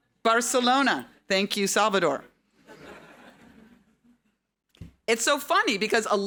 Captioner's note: audience laughing